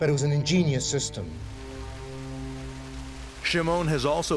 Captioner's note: water whooshing